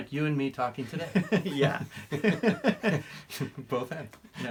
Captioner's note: laughing